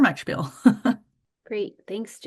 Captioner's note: chuckles